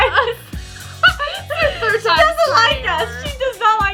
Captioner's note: laughs